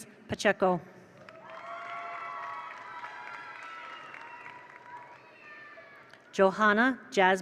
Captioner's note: attendees applaud; attendees cheer